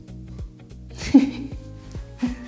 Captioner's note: laughs